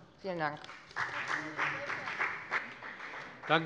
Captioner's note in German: Beifall bei der FDP